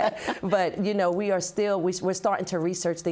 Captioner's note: laughs